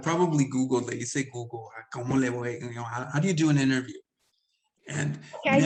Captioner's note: speaks Spanish